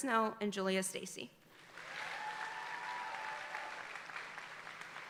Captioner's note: audience applauding